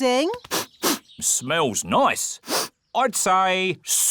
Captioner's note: sniffs